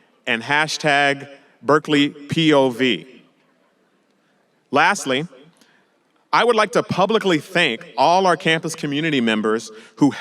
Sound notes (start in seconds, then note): none